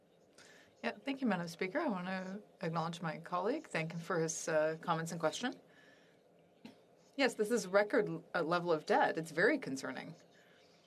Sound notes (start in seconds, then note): 2.6 speaking French